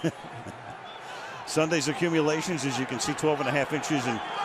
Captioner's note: laughs